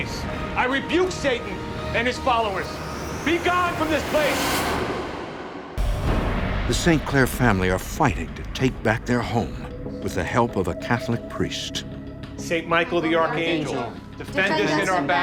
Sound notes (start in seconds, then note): 5.4 ominous music; 5.4 thunder crashing